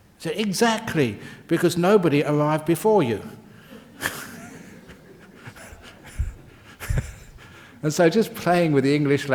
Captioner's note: laughs